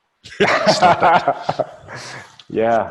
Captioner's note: laughing